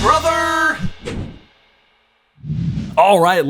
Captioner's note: image swishes; logo whooshes